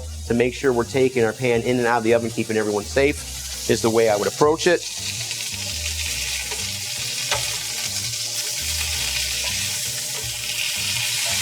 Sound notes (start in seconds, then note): 5.5 bright music; 5.5 chicken sizzling